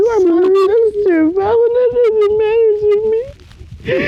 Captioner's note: sobbing